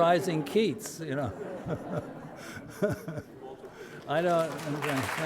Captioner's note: audience laughter; applause